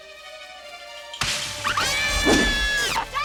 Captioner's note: ladies screaming; branches breaking